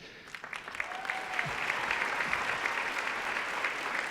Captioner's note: audience cheering